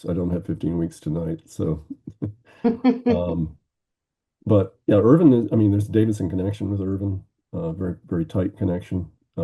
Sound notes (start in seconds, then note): 2.2 chuckling